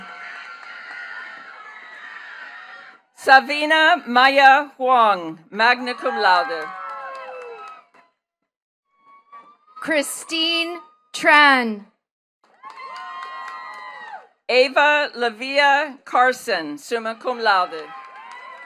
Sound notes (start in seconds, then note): 0.0 attendees cheering and clapping; 7.4 attendees cheering and clapping; 12.4 attendees cheering and clapping